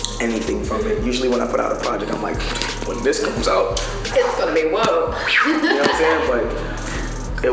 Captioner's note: whistles